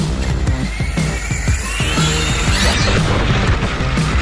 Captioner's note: upbeat music; tires whirring